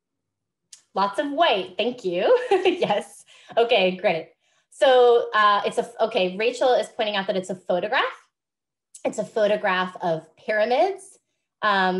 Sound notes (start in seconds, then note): 2.4 laughs